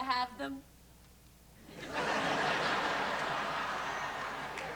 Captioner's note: laughter